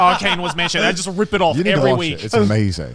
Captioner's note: laughs